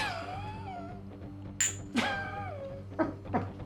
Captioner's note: laughs; speaking Slavic language; laughs